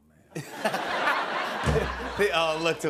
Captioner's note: laughter